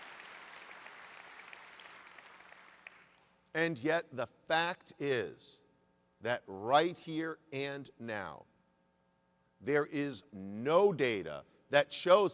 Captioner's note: applause